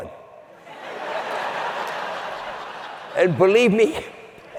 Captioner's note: laughing